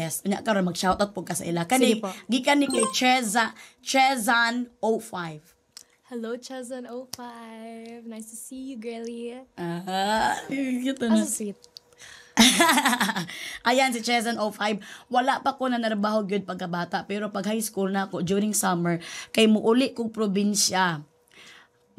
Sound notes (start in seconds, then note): 12.3 laughs